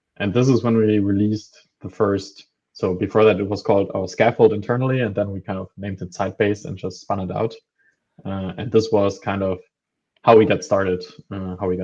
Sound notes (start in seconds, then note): none